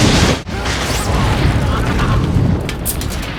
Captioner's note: explosion; loud rumbling and rising winds